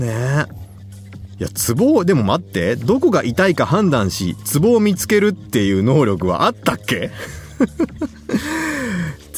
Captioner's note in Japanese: 笑い